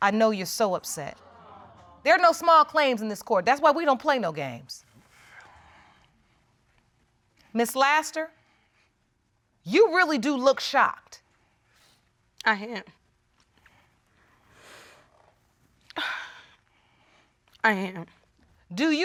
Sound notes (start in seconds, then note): 16.0 sniffles